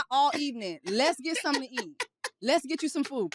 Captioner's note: laughs